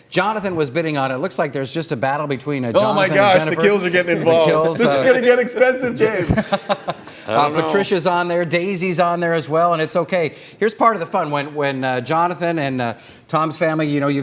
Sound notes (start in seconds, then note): 5.8 laughter